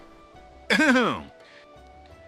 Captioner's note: clears his throat